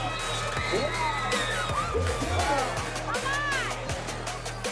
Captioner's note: upbeat music; crowd yells